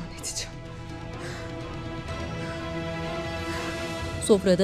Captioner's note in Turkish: Nefes sesi